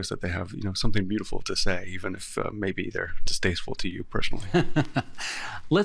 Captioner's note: laughing